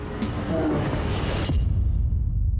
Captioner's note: bear roars